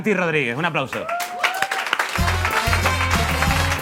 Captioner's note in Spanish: Aplausos